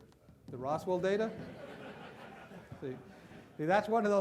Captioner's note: loud laughter